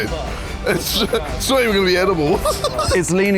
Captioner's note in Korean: 웃음